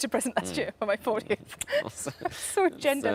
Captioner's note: laughs